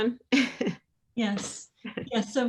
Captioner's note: laughs